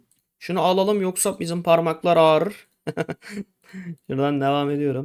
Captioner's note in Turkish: kahkaha